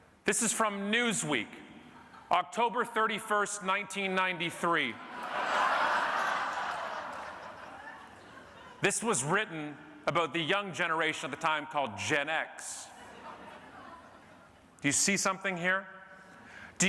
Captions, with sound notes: This is from Newsweek, October 31st 1993. (audience laughing) This was written about the young generation at the time called Gen X, you see something here?